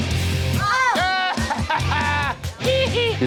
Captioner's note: rock music; yelling